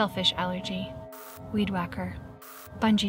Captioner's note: static crackles